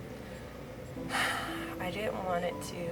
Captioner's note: deep sigh